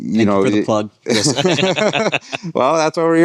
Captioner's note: laughing